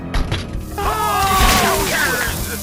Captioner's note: the screams of many dying soldiers